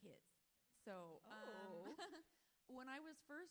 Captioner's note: author laughs